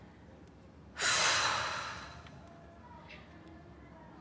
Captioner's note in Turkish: Nefes sesi